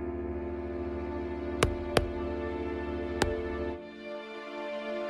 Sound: knock on the door

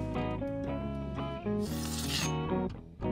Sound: sword unsheathes

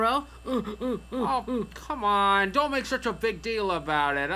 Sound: moaning

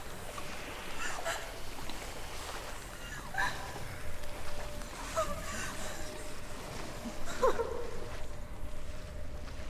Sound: whimpering

